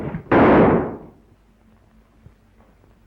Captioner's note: gunshot